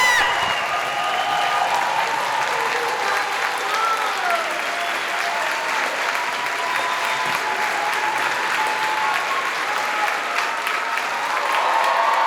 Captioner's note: audience cheers and applauds